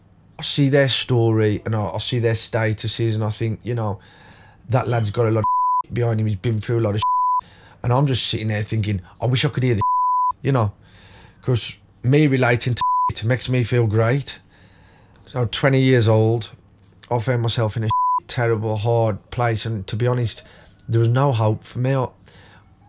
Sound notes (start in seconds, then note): 14.4 silence